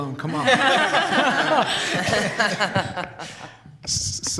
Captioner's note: laughter